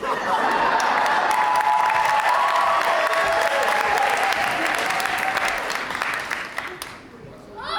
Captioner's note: audience cheers